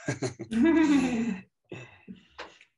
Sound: laugh

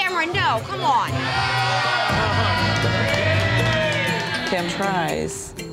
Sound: all cheering

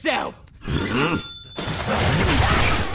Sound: grunts

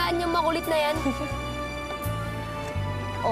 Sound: chuckles

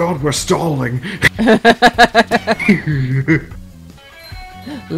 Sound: all of The Laughing

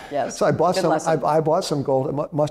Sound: laughs

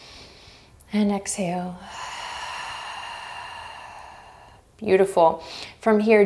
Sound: inhaling deeply; exhaling strongly

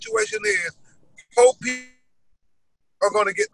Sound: audio glitch

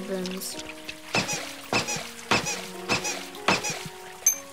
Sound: hammer squeaks

